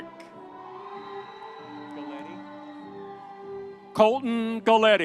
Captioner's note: audience cheering